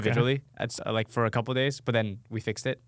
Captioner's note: laughing